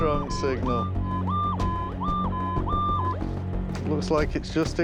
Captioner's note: beeping